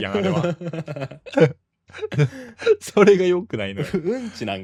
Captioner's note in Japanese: 笑い